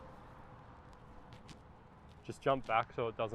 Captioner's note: gravel crunches